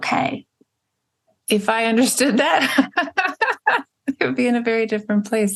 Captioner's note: laughs